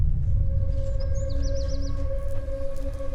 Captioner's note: birds chirping